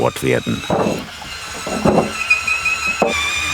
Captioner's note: machine noises